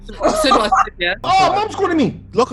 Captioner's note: laughs